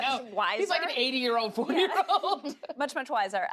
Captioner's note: laughs